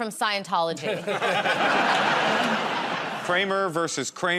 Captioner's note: laughter